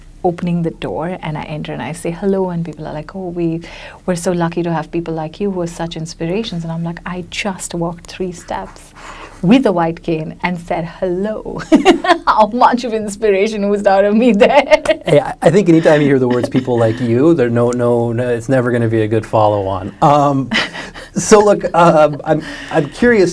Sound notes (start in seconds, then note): 10.6 laughs; 15.5 laughs; 20.0 chuckles